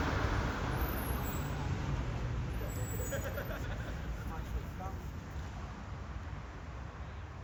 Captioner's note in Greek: Γέλια